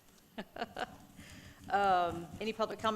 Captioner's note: laughing